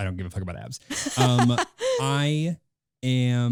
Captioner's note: laughing